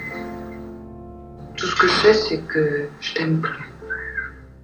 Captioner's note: voiceover of woman speaking in french; voiceover of woman speaking in french